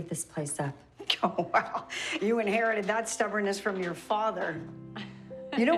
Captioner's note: laughing